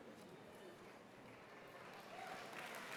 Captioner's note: applause